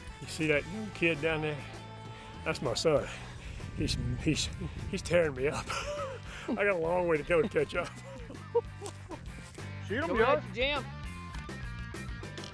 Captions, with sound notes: - See that kid down there? That's my son, he's tearing me up. I got a long way to go to catch up. (hearty laughing) - Shoot 'em y'all. - Comin' after Jim.